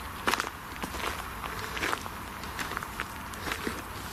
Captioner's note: footsteps